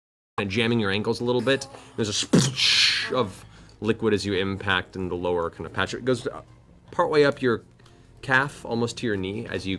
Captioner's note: splash